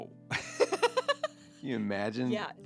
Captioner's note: laughing